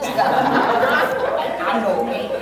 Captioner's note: laughs